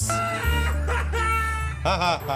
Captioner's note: screams; sarcastic laughter